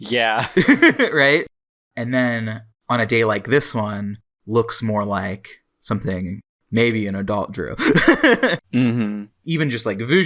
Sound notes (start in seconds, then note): 0.4 both laugh; 7.8 laughs